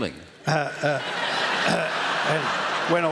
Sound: laughter

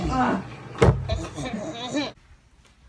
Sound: monkey laugh

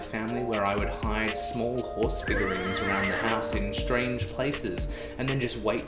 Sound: sound: A horse whinnies

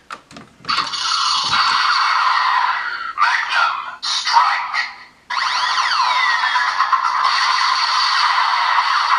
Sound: attack sound

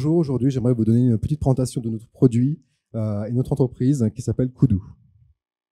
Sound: translating into french

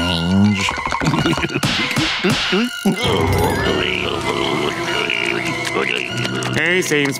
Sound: snickering

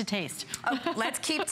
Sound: laughter

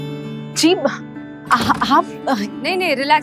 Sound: stammers

